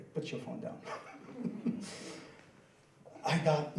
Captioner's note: laughing